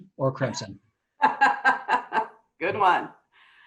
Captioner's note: laughs